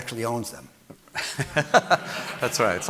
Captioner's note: audience laughing